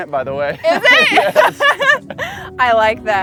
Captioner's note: laughs